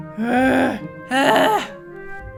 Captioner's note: grunting